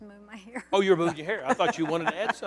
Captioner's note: laughter